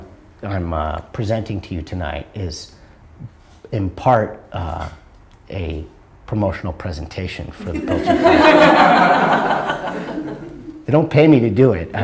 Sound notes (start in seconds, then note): 7.6 audience laughter